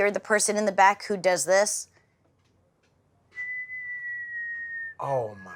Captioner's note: whistles